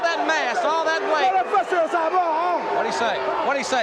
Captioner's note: Samu speaks in Indigenous language